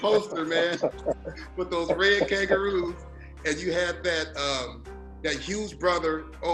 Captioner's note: laughter